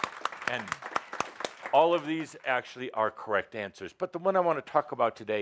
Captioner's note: audience applause